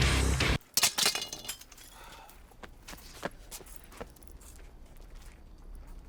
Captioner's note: weapon clatters